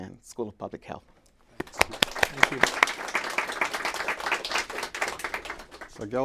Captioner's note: applause